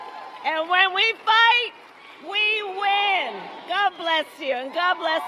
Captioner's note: applause